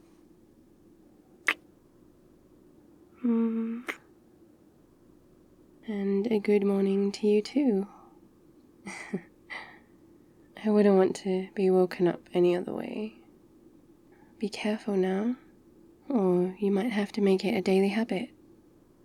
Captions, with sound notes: *kiss* mm *kiss* and a good morning to you too *sleepy laugh* I wouldn't want to be woken up any other way be careful now... or you might have to make it a daily habit